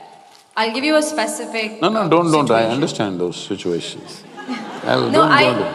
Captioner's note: laughter